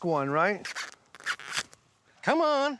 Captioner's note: husking corn